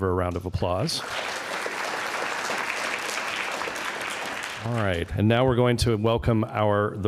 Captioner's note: applause